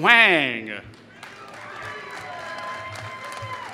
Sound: applause

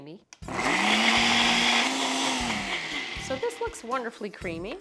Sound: blender whirling

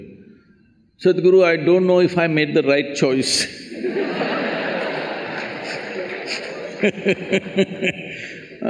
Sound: laughter

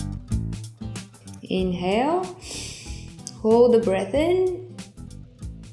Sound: breathes deeply

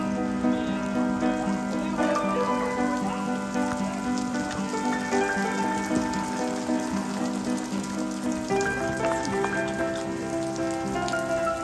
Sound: raining

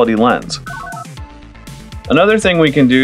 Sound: analog beeps

